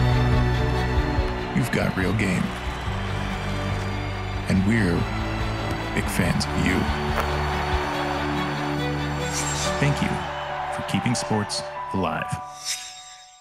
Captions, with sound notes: You've got real game. And we're big fans of you. (crowd cheering) Thank you for keeping sports alive.